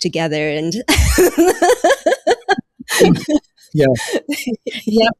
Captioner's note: all laughing